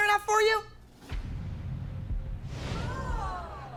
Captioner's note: audience groans